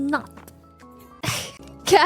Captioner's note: laughs